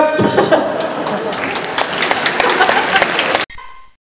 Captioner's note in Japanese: 拍手